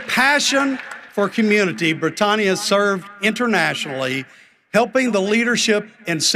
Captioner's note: cheering and applause